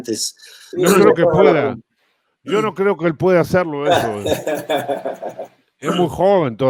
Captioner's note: risas